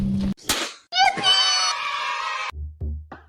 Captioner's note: cheering